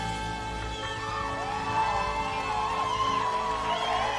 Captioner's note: cheering and applause